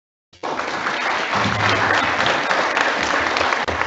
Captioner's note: audience applauds